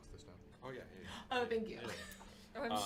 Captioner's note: giggles